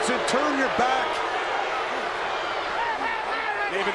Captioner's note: crowd boos